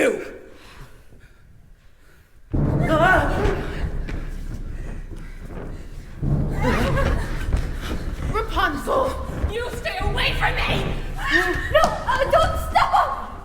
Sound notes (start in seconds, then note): 2.5 low rumble; 13.2 crushing sound